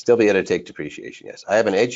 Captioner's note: laughs